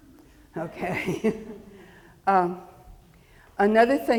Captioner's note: chuckles